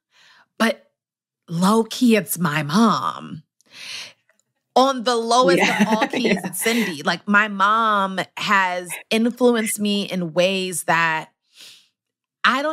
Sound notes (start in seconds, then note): 5.4 laughs